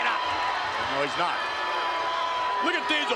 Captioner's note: spectators cheering